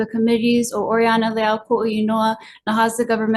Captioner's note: foreign language